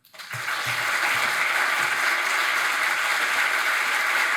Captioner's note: attendees applauding